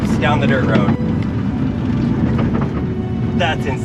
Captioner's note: car rumbling